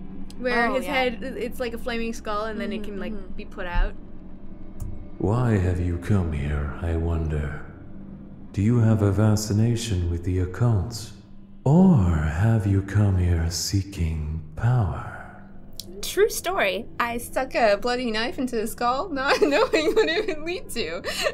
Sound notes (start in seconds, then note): 5.2 game audio